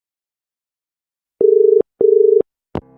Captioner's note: dial tone